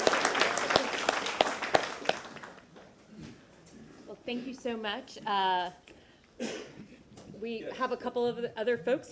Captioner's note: applause